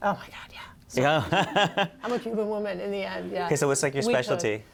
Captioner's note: laughter